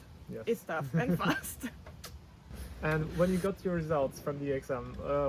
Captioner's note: laughs